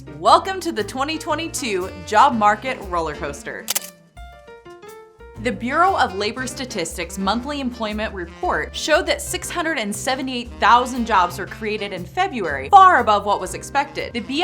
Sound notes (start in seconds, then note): 3.7 camera shutter clicks